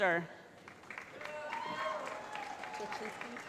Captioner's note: cheering